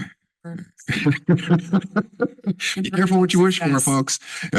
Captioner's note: laughs